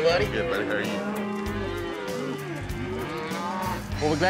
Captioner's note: cows moo